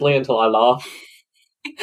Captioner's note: laughs